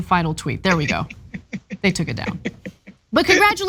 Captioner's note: laugh